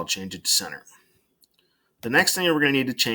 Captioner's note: silence